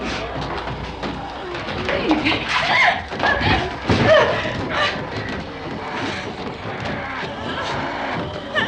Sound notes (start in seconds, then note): 4.0 gasping